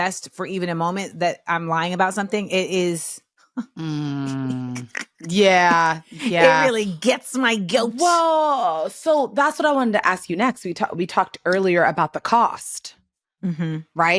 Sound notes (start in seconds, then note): 6.1 laughs